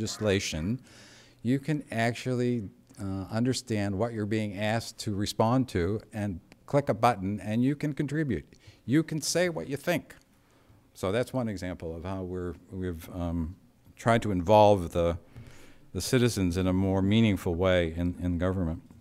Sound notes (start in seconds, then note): none